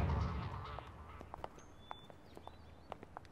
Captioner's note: Footsteps